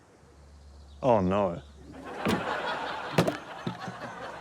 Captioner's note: audience laughs; hand clatters